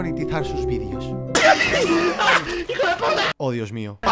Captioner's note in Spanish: risas